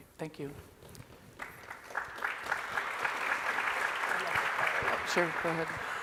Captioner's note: applause from the audience